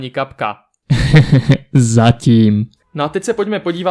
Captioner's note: villanous laughter- "For now..."